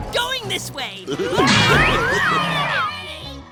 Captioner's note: screaming